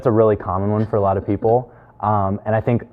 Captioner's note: giggling